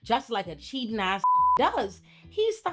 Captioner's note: beep